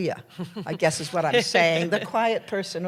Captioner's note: laughter